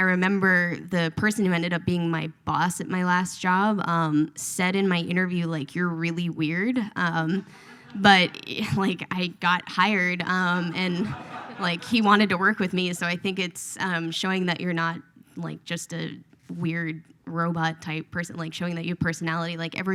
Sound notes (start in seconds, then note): 7.4 audience laughs; 10.9 audience laughs